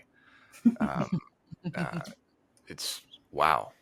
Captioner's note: group chuckling